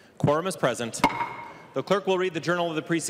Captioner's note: gavel